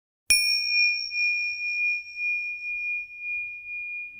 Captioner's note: bell ringing